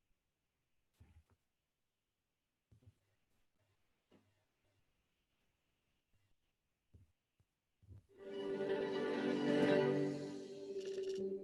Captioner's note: silence